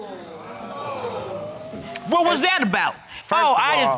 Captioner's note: all gasping